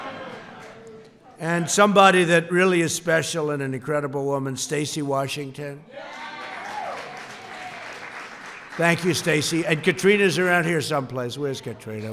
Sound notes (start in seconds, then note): 0.2 laughter; 6.1 applause